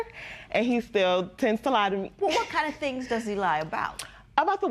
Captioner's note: none